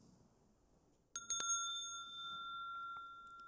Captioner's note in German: Mooji klingelt das Glöckchen